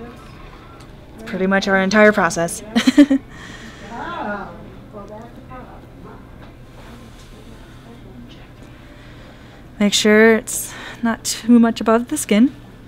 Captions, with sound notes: That's pretty much our entire process, (laughing). Make sure it's not too much above the skin.